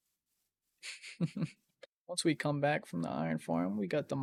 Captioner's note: laugh